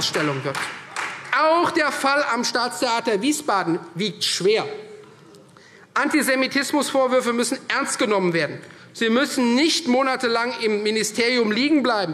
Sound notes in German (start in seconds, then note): 0.0 Beifall Freie Demokraten